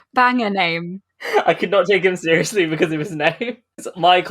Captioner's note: laughing